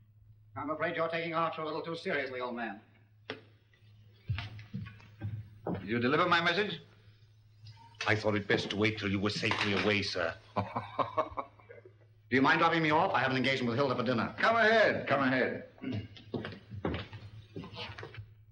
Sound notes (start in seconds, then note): 10.4 laughing; 15.8 mens' footsteps